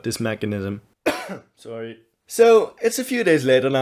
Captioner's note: cough